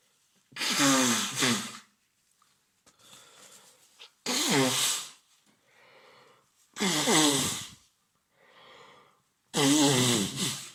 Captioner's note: really long nose blow